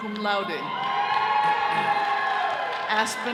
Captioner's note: all cheering